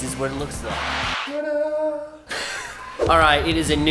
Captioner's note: laughing